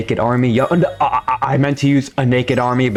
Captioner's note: stutter Moment